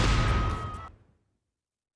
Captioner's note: cheering